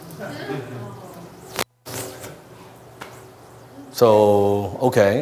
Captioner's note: audience laughs